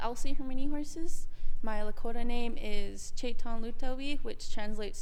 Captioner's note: speaks in Lakota